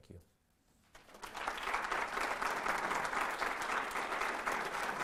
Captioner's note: audience applauds